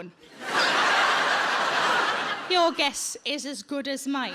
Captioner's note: audience laughs